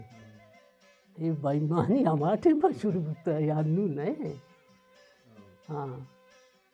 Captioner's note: chuckles